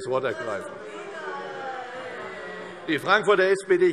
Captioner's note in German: Anhaltende Zurufe SPD und DIE LINKE